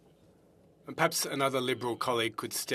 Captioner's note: speaking French